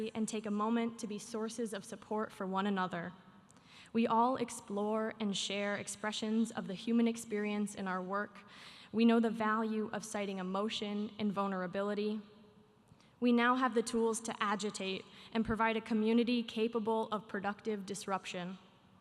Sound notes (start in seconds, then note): none